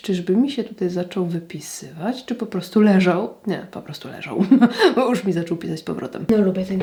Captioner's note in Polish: śmiech